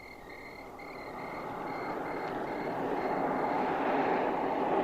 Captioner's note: car passing